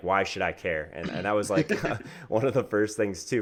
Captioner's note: both men laugh